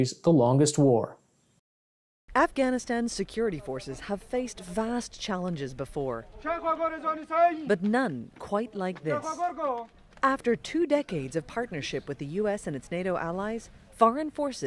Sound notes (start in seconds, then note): 8.9 shouting